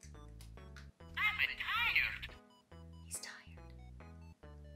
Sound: whispering

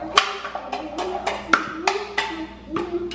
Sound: banging

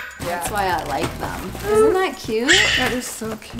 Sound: bird squawking loudly

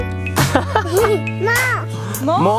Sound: laughs

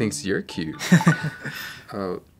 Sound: cellphone rings; chuckles

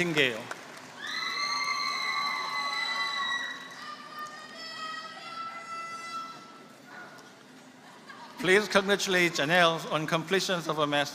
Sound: applause

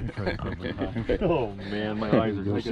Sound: chuckling

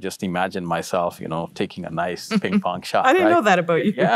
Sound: laughs

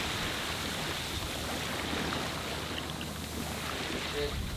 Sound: water sloshing

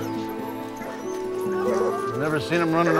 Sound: dogs barking

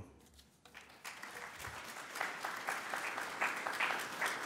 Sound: audience applauds

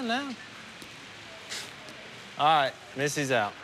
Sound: scoffs

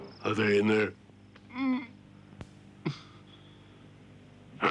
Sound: man grunting

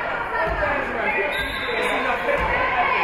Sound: spectators shouting encouragements; whistle being blown; spectators shouting encouragements

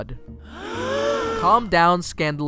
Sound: gasps

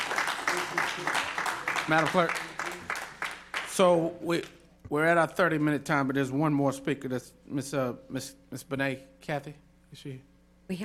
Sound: applause

